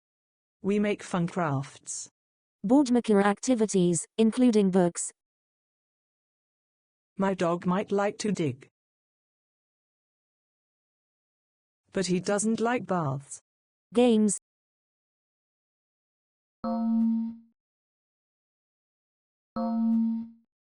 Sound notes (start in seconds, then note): 16.7 chime; 19.6 chime